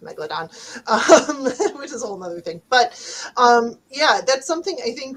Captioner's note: laughs